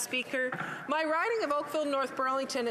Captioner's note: speaking French